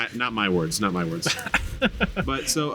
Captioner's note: laughing